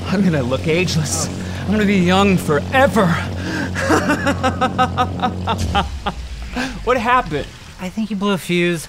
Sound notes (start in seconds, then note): 3.5 maniacal laughter; 4.1 powering down sounds